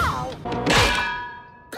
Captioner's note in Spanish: thud